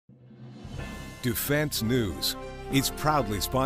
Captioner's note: long beep